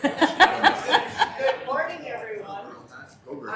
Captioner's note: laughing